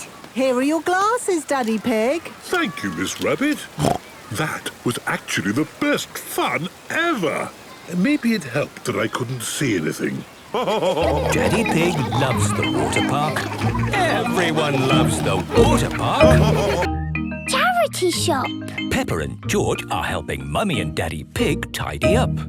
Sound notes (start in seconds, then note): 3.6 snorts; 10.4 laughing